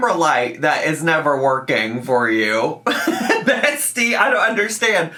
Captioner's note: laughs